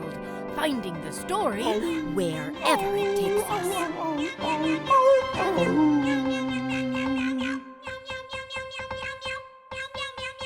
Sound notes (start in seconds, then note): 2.5 dog howling; 2.6 cat mewling